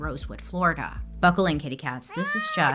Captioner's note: cat meowing